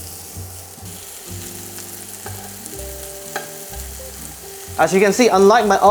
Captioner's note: sizzling sound